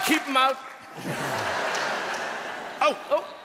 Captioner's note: people laughing